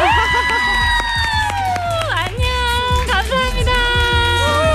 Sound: clap

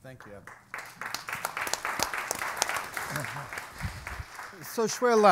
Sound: audience and panel applaud

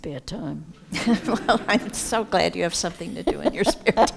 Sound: laughing

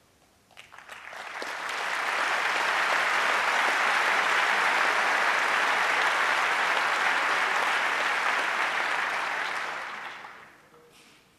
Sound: applause

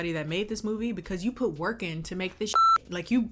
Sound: beep

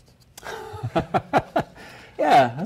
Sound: man laughs

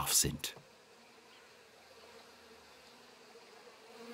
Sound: humming, birds chirping

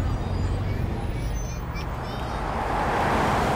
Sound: indistinct children chattering

